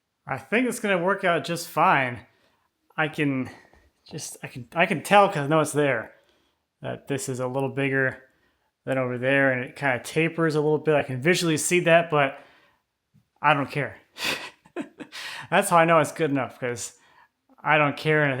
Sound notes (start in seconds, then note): 14.3 laughing